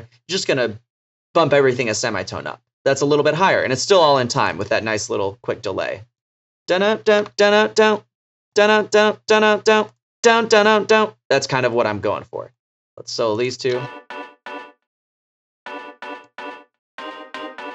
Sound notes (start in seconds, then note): 6.9 making verbal drum beats; 13.7 key tones